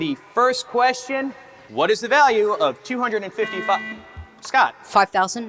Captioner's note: buzzer beeps